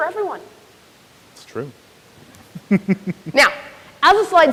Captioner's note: chuckles